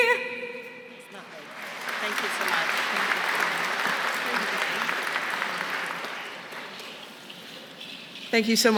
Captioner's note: applause